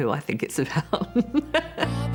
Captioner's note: chuckles